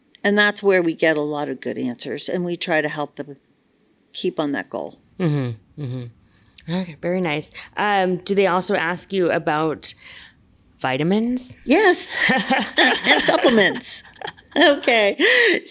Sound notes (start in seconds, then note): 12.1 both laugh